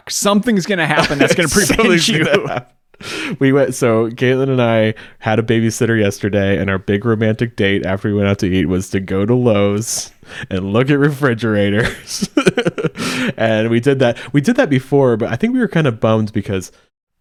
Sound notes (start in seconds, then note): 0.9 laughing; 11.8 laughs